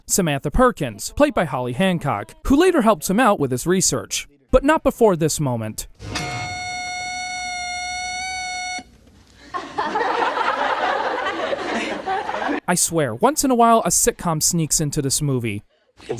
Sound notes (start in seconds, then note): 6.0 alarm sound; 9.4 laughter